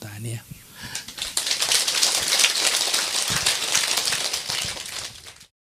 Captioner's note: applause